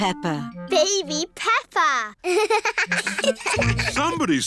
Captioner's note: both laugh